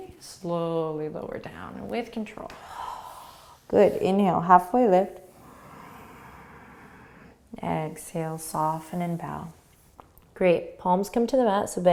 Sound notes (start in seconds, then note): 2.6 exhaling; 5.4 inhaling